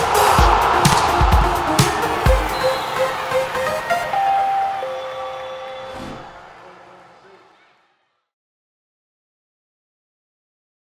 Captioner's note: applause